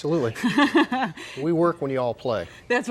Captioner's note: chuckles